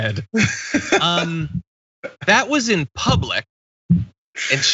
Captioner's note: laugh